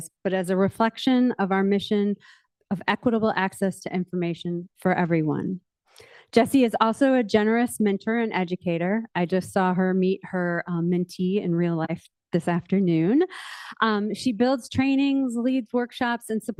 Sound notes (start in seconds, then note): none